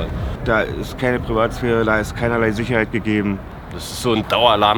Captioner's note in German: männliche Stimme